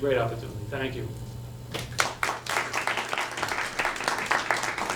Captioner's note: audience applauds